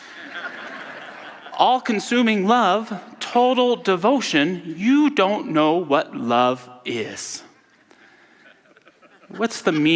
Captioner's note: audience laughter; audience laughter